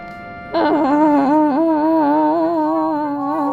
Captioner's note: Toby yells/cries/complains/whines